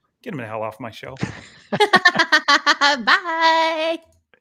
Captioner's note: laughing